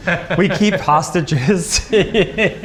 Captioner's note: laughs